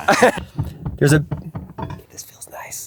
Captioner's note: tools thudding